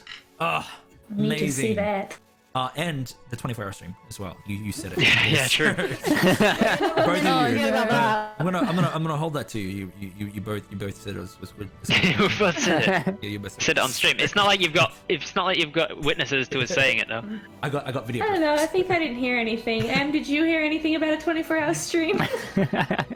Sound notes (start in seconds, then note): 4.8 laughs; 11.9 laughs; 22.2 all giggles